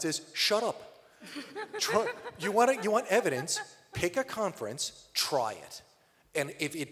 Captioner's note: laughter